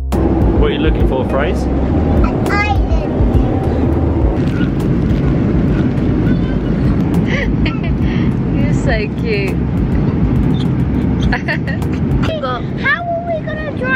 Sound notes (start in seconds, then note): 5.7 laughing